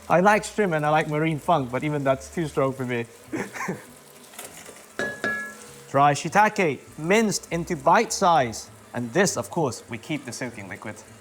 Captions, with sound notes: I like shrimp and I like marine funk, but even that's too strong for me. [chuckles] Dry shiitake, minced into bite size. And this, of course, we keep the soaking liquid.